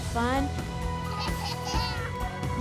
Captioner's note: laughing